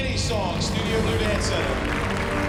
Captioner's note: applause